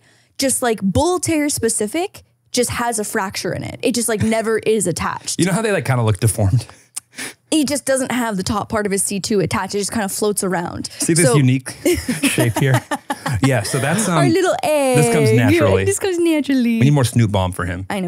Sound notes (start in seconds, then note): 7.1 chuckles; 11.7 laughing